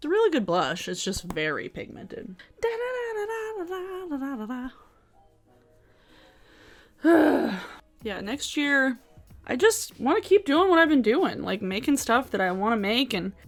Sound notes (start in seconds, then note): 2.6 hums; 7.0 sighs